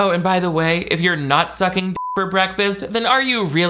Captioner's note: beep